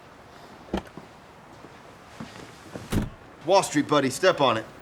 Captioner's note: car door opening and closing